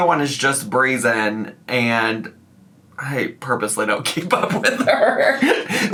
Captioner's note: laughs